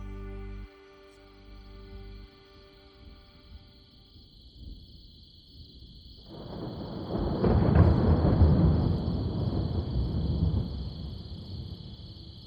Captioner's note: insects chirping; thunder